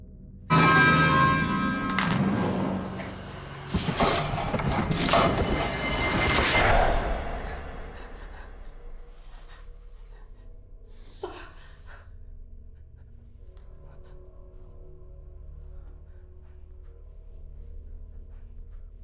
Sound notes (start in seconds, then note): 0.1 sudden ominous music; 1.6 flashlight clattering; 3.2 monster rasping softly; 3.2 soft ominous music; 7.0 Heather breathing heavily; 10.6 gentle tense music